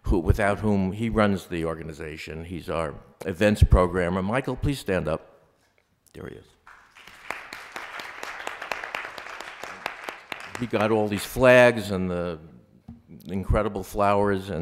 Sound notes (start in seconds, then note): 6.6 applause